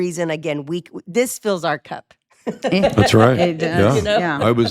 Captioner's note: laughs